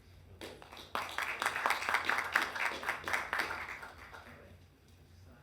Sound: audience applauding

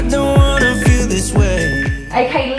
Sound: timer beeping

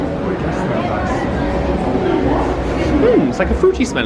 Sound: guests chattering

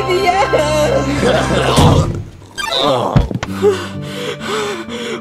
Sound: Mario and Luigi grunt; game trills; whimpers

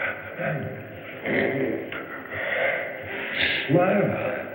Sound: sniffs

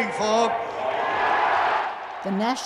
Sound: crowd cheers

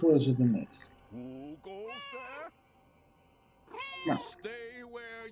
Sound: Hodge meows; Hodge meowing

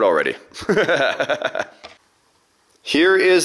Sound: laughs

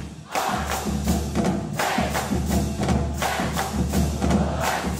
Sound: band members shouting

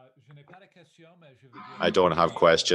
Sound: speaking in French

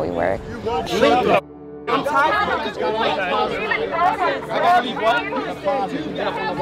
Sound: crowd arguing

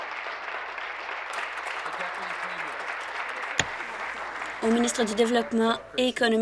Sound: applause

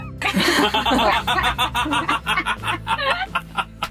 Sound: everyone laughing

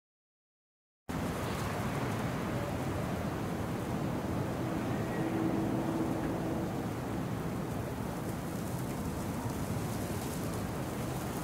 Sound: sound of winter night

